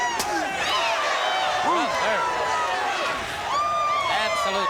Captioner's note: audience cheering